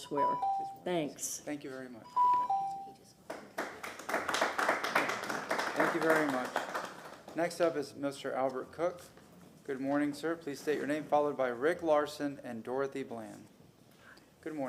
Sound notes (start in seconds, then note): 8.2 applause